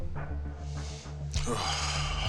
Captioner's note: sighs